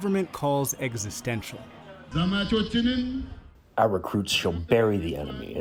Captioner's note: through translator